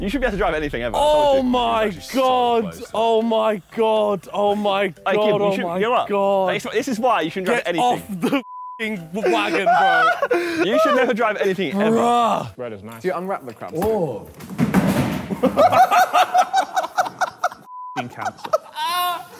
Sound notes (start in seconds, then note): 14.4 plastic boxes collapse; 15.3 Sidemen laughing